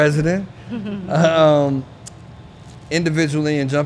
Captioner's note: chuckling